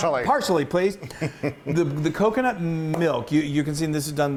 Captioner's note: laugh